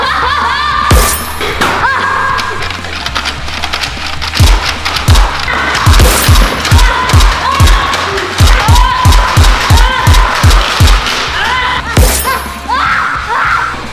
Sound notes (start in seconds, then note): 0.0 laughing; 5.7 nerf shots; 7.0 screaming; 12.6 screaming